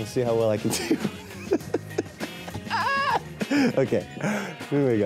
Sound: laughing

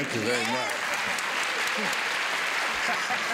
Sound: applause; laughter and applause

